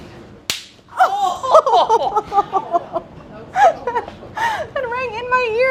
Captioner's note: women laughing